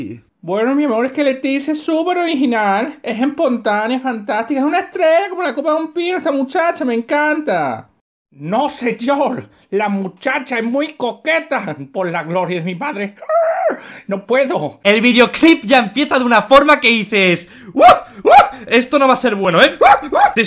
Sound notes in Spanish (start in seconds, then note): 17.6 sonido de apareamiento; 19.8 Sonido de apareamiento mas potentorro